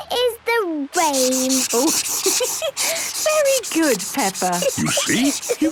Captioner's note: laughs